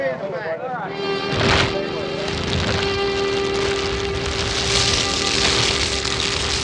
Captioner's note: fire crackling